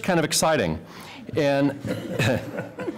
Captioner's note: laughter